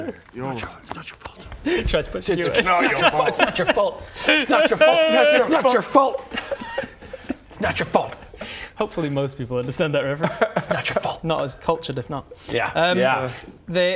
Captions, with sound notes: you're alright it's not your fault tries to push you away it's not your fault it's not your fault - *wails* - it's not your fault it's not your fault it's not your fault hopefully most people understand that reference it's not your fault not as cultured if not yeah